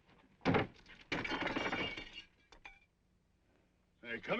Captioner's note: glass breaking